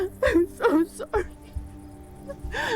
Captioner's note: crying